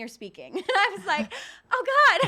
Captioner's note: giggling